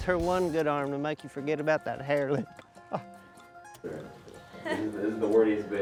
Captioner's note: laughs